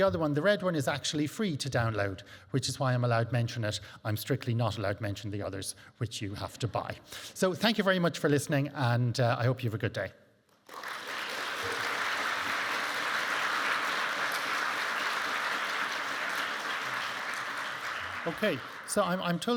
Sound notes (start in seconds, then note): 10.6 audience applauding